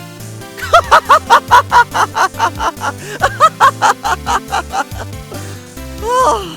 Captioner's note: laughing